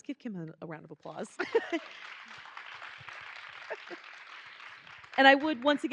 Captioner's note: attendees applauding